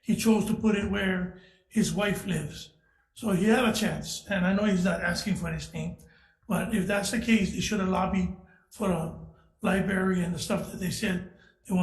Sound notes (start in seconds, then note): none